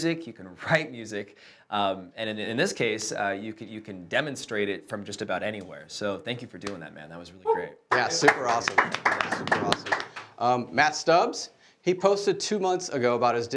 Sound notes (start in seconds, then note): 7.9 applauding